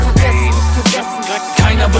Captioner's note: scratches